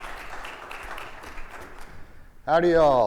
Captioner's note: audience applauding